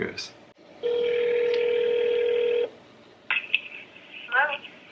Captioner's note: phone rings